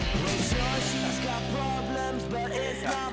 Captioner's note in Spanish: Clic de la cámara